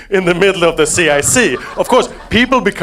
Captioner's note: audience laughing